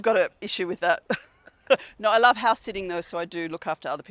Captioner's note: laughs